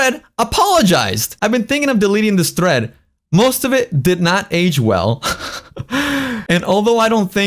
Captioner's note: laughs